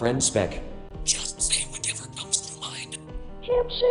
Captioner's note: whispering